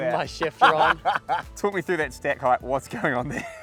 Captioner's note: laughs